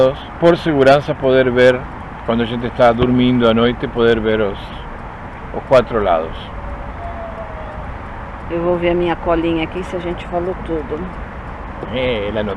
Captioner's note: laughs